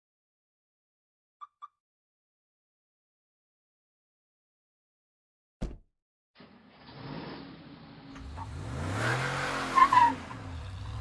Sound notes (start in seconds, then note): 1.1 truck alarm chirps off; 5.3 truck door shuts and the engine roars on; 6.4 truck speeds off making a high screech